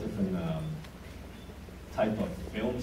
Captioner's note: none